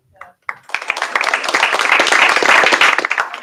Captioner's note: applause